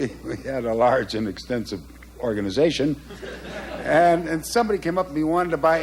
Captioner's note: laughter